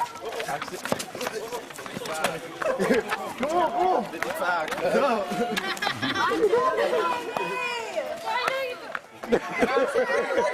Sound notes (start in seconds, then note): 4.3 speaks softly; 7.7 laughter